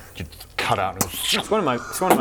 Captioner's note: pssch